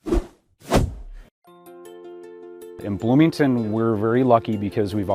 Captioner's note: swishing transition sounds